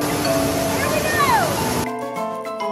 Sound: water gushing; playful upbeat music

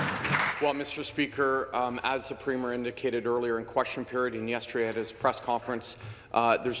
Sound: some Applause

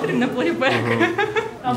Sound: laughs

